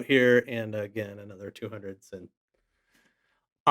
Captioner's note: faintly speaking